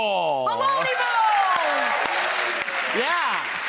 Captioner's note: audience cheering and applauding